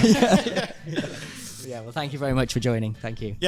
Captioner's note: laughs; hosts laugh